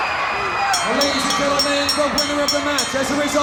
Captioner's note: bell rings